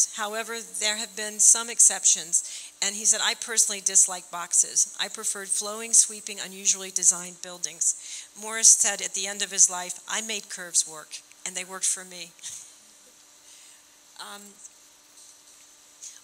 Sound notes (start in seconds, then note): none